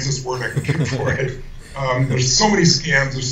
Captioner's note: laughing